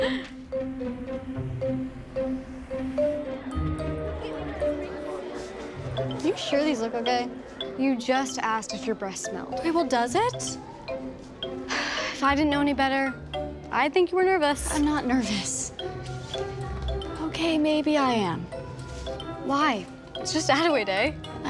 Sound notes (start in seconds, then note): 3.5 crowd chattering; 11.6 sighs